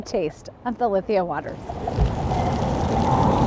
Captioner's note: sound of water bubbling